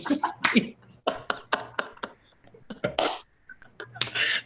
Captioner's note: laughter